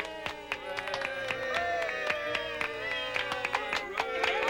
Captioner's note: clapping